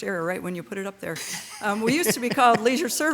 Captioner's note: member laughing